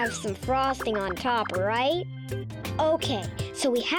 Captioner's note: cherries popping